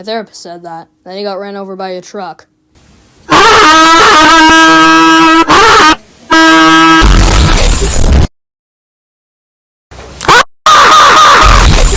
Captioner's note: glitches